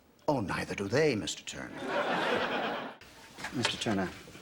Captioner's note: audience laughter